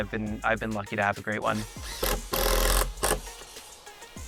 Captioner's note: whirring